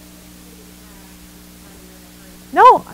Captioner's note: microphone feedback drowns out audience member